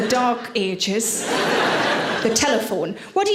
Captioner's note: audience laughing